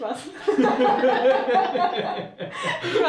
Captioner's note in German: lachen